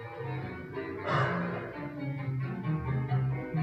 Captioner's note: sigh